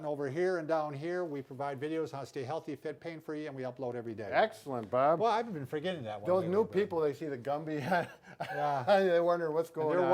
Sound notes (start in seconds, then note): 7.7 laughing